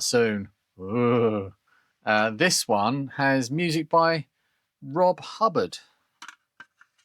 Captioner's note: groans